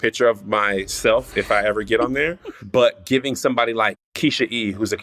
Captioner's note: laughter